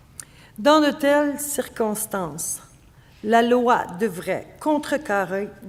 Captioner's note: speaking French